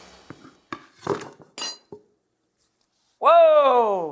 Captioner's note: frying pan clanking